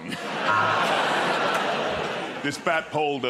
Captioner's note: laughter